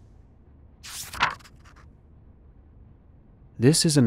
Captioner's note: paper flicks